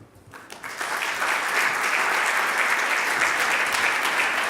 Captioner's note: audience applauding